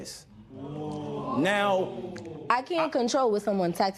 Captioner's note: spectators ohh